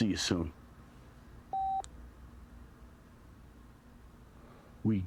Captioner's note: phone beeps